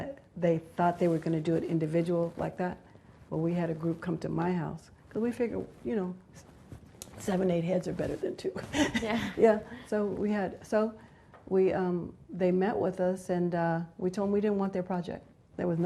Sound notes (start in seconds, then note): 9.1 laughs